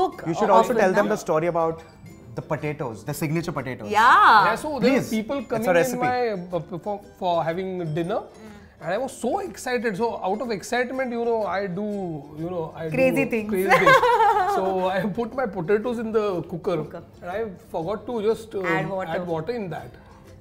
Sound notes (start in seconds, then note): 13.7 chuckles